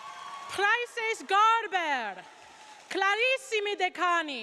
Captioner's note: speaks in Latin